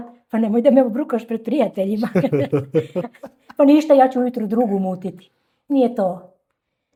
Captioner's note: laughter